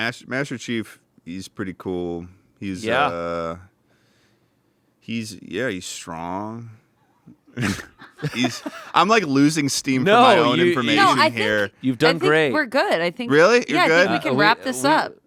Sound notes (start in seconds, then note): 7.6 everyone laughs